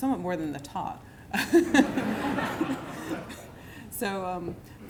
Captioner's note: laughter